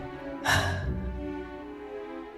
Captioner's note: sigh